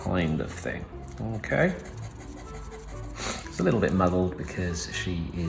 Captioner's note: pencil scribbling